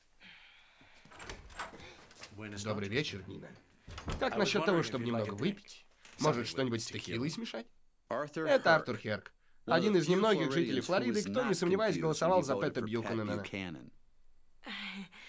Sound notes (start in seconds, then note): 0.2 sigh; 2.1 gasps; 3.8 door closes